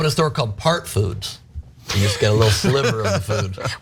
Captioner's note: laugh